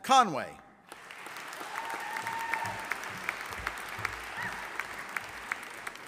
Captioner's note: audience applauding